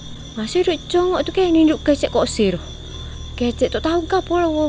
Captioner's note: ranting